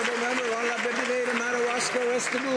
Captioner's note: some Applause